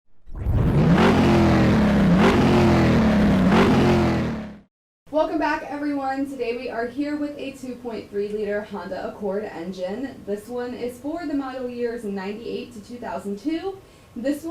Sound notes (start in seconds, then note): 0.2 engine revving